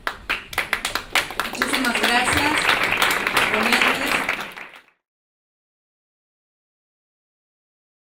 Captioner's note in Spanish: Aplausos